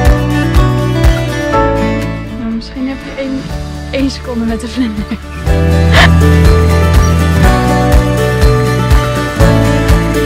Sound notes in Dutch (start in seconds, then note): 4.8 gelach